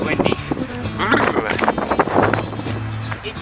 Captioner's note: cold sounds